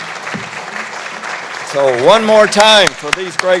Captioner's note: applause